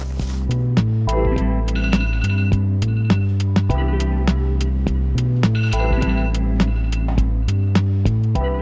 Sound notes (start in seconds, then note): 0.5 relaxing music; 1.7 alarm ringing